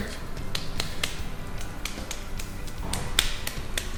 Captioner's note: slapping